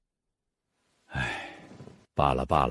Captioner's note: sigh